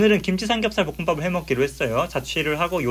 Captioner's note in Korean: 삼겹살 소리 캬~~; 지글지글